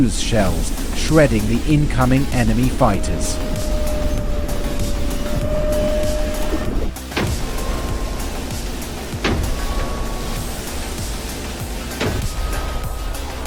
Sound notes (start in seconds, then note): 6.9 cannon fire